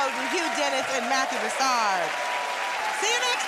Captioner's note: cheers and applause